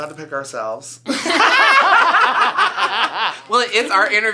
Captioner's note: all laugh